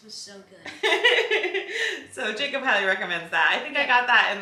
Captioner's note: laughs